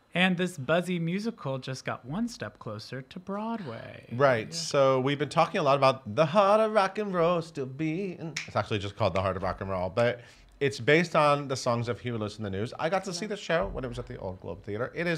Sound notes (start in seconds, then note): 8.9 snapping